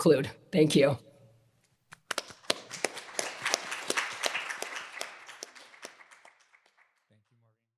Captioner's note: applause